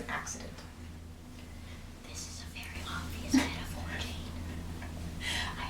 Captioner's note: whispering